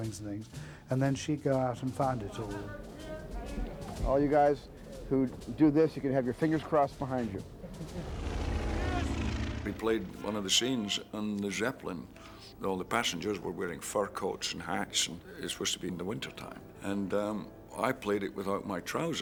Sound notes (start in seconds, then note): 7.7 shouting in German